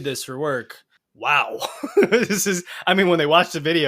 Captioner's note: laughs